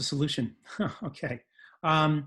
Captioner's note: laughs